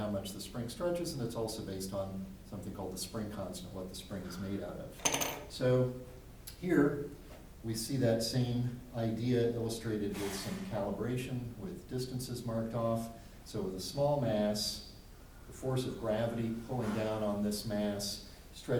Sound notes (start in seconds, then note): 5.0 spring rattles on table